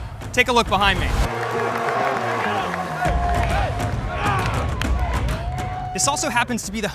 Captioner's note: upbeat music; players vocalizing